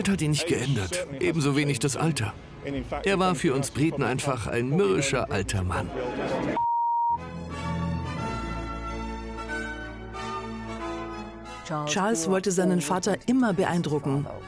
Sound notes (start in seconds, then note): 6.6 beep; 7.2 regal instrumental music